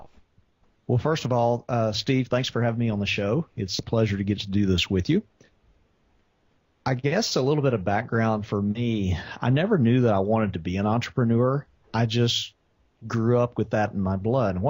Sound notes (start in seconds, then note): none